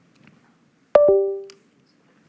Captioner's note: bling